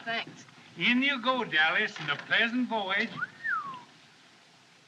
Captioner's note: man Whistles